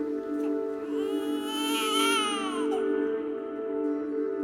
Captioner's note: baby cries